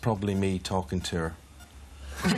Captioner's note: laughter